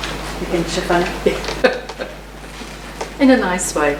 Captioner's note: laughing